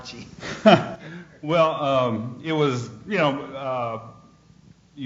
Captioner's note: laughs